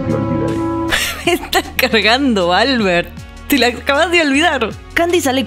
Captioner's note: laughs